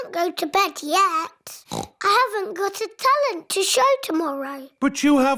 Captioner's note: oinks